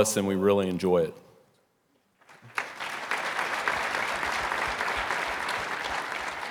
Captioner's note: audience applauding